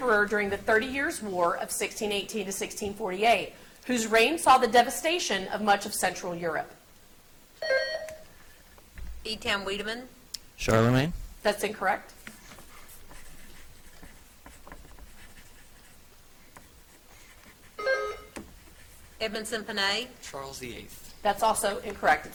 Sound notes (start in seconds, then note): 7.6 buzzer beeps; 17.8 buzzer beeps